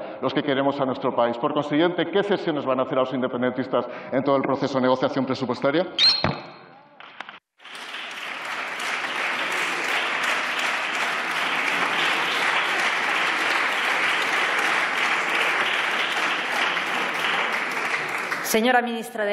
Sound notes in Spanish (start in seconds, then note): 12.3 Aplausos